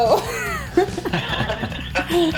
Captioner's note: everyone laughing